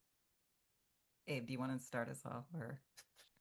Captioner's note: hablando inglés